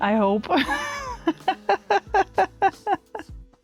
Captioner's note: laughing